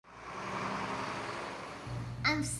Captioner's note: engine thrumming